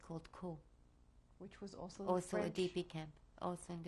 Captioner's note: french